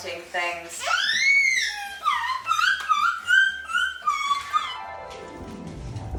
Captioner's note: Rupert squeals in background